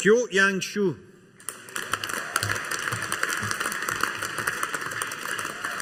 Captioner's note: audience applauding